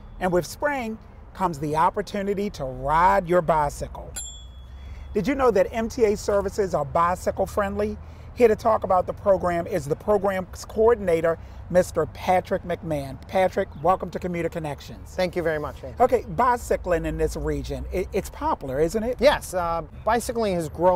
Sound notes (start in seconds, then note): 4.1 bicycle bell rings